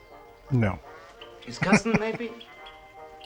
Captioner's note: chuckling